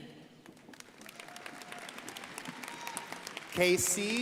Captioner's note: crowd applauding